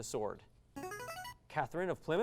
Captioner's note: device sound